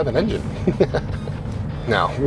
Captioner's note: chuckling